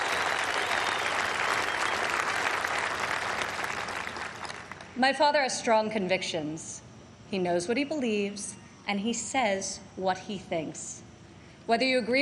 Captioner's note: applause